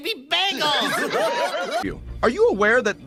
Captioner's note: audience chortling over Peckinpah chortling